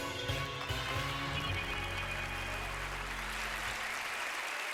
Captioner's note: upbeat music; audience clapping